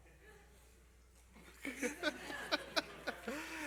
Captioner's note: laughter